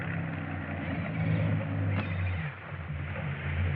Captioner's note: birds singing